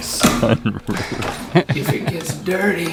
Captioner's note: laughing